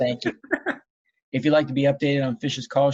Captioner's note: laughing